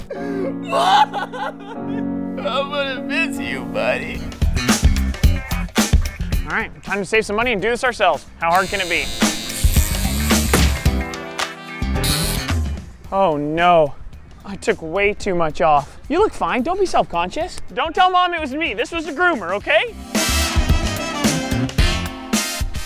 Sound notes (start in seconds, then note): 0.0 crying; 4.4 jazz music; 8.5 buzzing; 10.5 thud; 19.8 jazz music